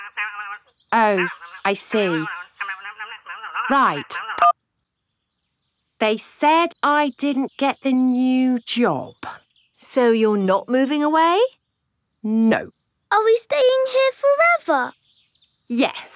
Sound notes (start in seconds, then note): 3.4 beeps